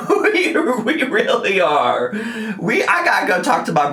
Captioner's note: laughing